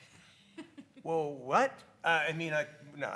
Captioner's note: speaker laughs